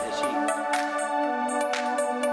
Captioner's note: clap